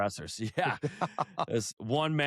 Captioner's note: laughter